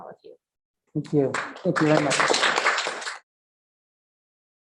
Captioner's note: applause